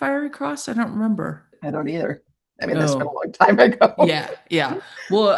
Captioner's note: chuckles